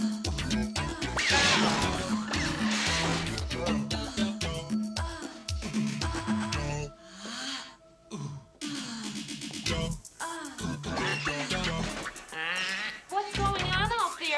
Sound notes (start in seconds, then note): 10.1 grunting